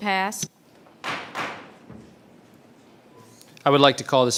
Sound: gavel bands twice

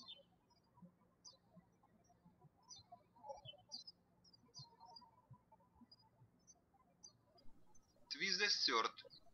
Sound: birds chirping

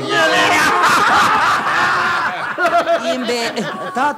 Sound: everyone laughs out loud

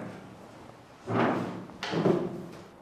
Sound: chair scraping sound

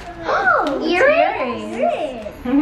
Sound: kids gasp

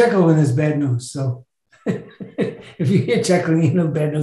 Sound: chuckles

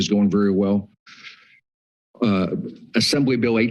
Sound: pause

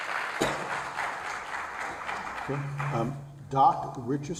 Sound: applause

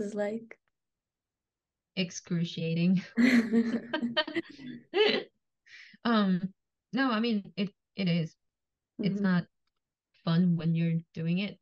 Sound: laughs

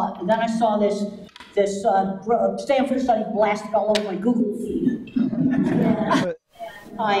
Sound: audience laughs

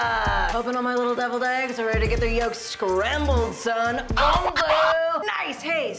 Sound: record scratch

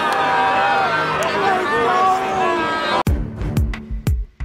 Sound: teammates cheering

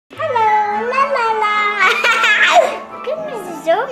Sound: laughing

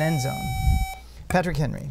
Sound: buzzer

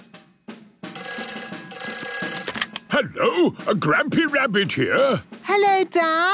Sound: phone ringing

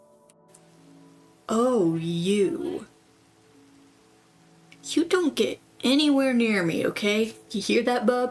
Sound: none

